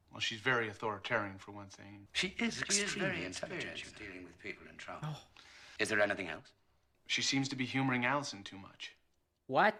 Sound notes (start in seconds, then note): 3.8 echoing flashback